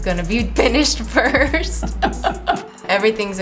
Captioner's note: both laugh